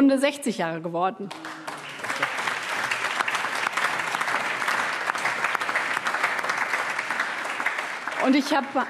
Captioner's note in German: Allgemeiner Beifall